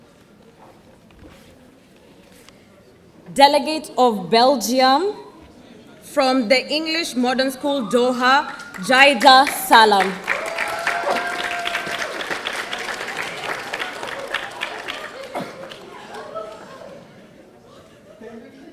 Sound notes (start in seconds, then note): 10.3 audience applauding; 10.3 audience cheering